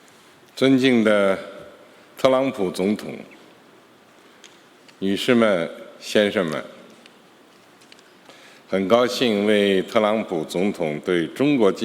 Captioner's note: speaking Mandarin Chinese